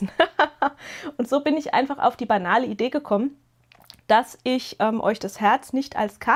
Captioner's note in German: gelächter